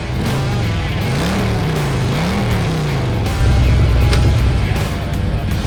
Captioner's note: motorcycle roaring